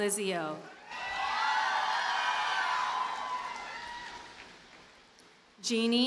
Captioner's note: audience cheers and applauds